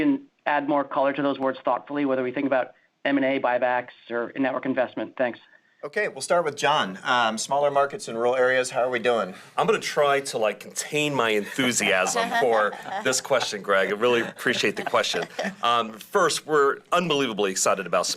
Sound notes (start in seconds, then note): 11.4 laughter